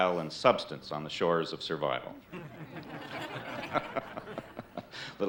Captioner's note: all laughing